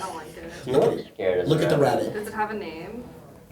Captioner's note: overlapping chatter; voiceover